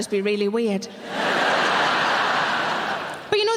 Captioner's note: audience laughing